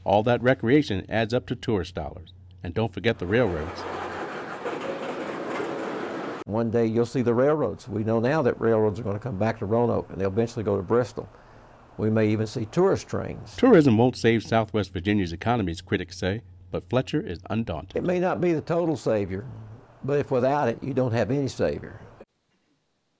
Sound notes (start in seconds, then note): 3.1 train sounds